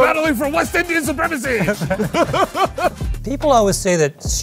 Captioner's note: laughs